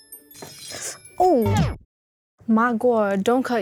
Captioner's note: knife scratching; twinkling music; record freezes